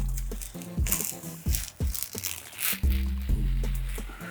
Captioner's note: tape pulling